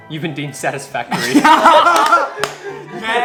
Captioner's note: laughs